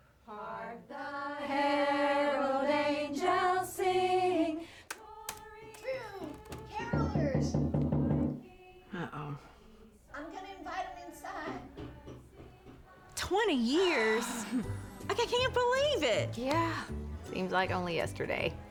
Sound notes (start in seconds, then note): 6.2 knocking on door